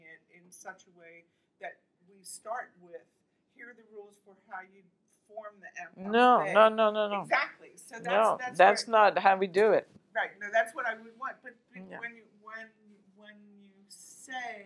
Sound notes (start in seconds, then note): 5.9 french